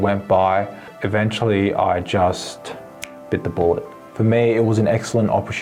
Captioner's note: snaps fingers